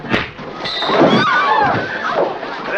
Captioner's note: screaming